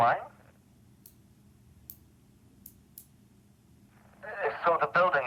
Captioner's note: fingernail clipper clicks